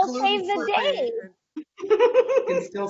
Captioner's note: laughing